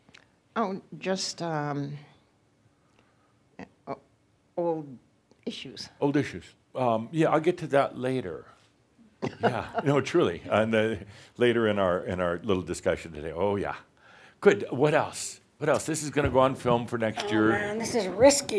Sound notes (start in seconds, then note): 9.2 she chuckles